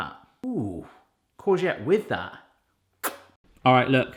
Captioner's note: kisses